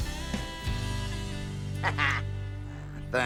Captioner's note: larry chuckles